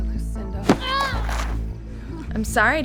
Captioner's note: Evelyn groans